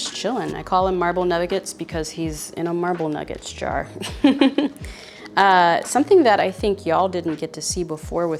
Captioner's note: laughs